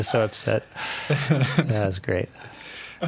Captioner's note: laughing